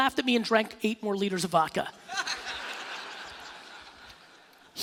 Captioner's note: laughing